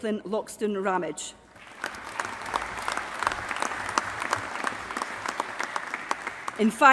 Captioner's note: applause